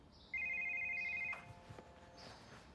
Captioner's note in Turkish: Telefon çalar